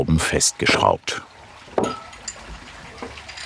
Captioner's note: splashing water